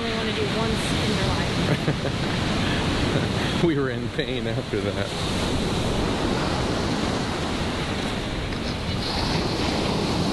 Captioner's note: laugh